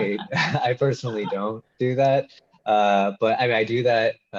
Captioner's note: laughing